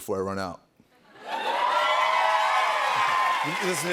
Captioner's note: cheers and applause